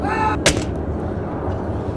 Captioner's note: scream; falling Sound